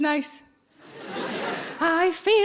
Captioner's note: audience laughs